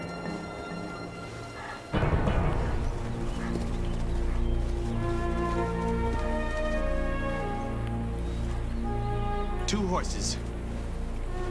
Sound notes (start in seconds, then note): 2.4 dramatic orchestral music; 4.1 footsteps